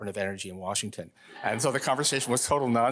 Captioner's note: audience laughing